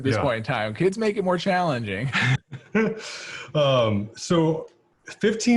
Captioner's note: laughs